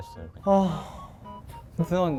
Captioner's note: A big sigh